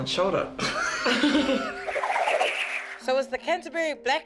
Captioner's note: both laugh